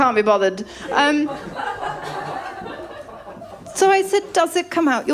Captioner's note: laughter